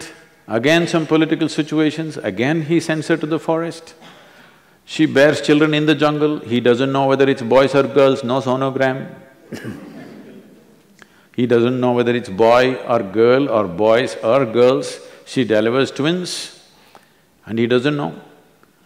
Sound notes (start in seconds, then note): 9.5 few laugh